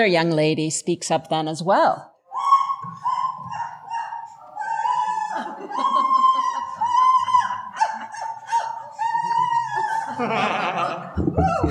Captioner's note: shrieking